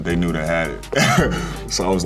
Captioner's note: chuckles